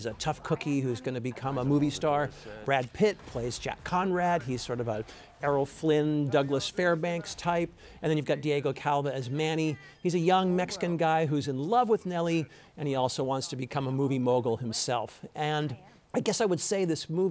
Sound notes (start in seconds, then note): none